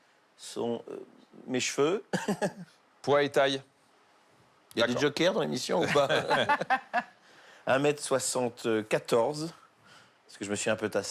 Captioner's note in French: rires